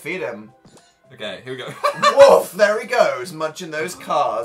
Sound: laughs

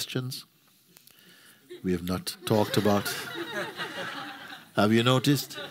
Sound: laughter

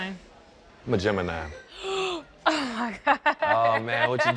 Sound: laughs

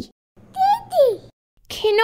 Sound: baby noise

